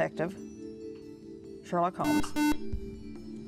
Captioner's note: buzzer